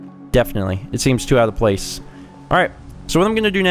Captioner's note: none